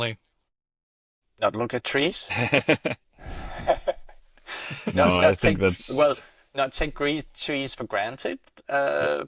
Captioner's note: laughter